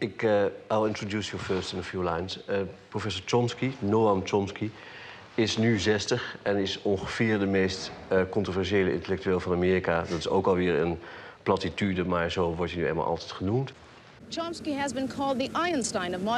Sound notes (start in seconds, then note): 5.4 speaking in foreign language